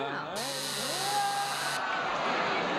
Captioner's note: buzzer sounds